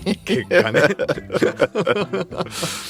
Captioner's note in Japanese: 笑い